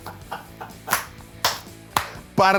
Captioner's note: cameraman laughs; cameraman claps